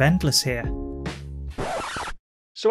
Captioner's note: record scratch